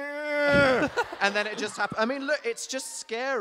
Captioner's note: Phil laughing